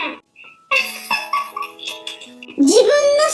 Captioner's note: laughs